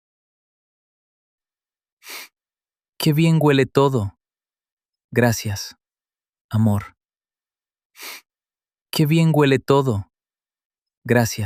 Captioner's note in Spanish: resoplido